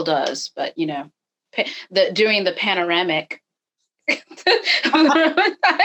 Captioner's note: laughing